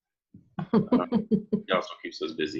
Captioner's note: laughing